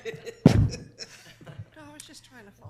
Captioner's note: laughs